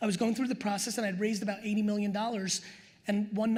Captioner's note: none